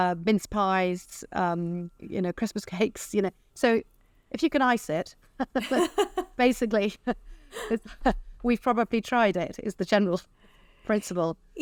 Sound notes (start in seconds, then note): 5.5 both laughing